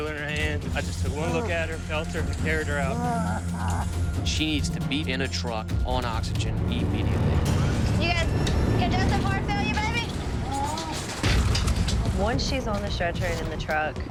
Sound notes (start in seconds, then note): 2.5 coughing